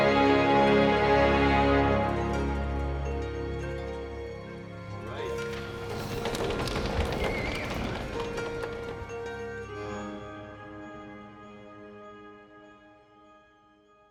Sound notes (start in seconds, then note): 0.3 uplifting music continues; 7.1 audience applauding and whistling; 10.1 soft music fades out